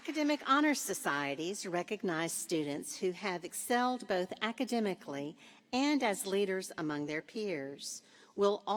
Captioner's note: applause